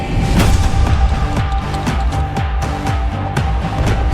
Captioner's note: clap